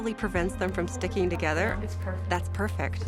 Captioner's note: speaking English